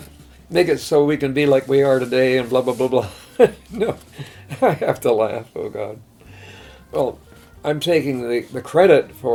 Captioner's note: laughs